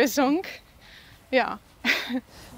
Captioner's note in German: Leises Lachen